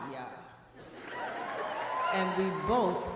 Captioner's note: audience laughing